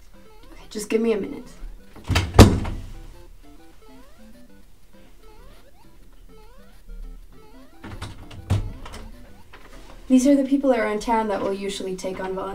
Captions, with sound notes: Okay, give me just a minute. [door closes] [video game music] [door opens] These are the people around town who will usually take on